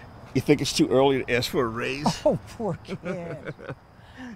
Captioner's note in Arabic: يضحك